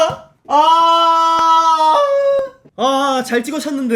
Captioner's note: A soccer fan crying out in agony